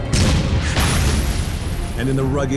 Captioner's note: explosions booming